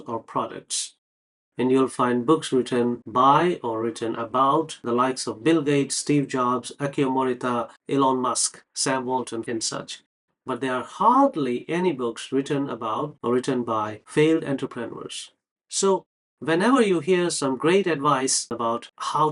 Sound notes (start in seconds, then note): none